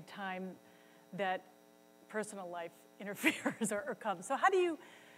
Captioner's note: laughs